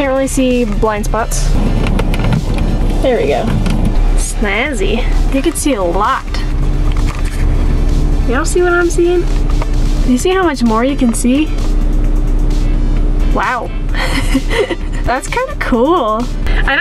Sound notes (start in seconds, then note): 14.0 laughs